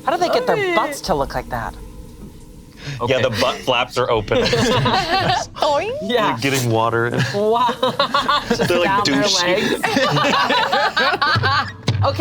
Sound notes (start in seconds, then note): 4.0 group laughs; 7.0 laughs; 10.0 group laughs